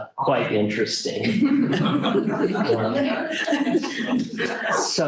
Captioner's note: laughter